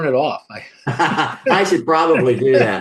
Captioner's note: laughs loudly